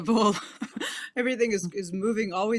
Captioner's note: laughs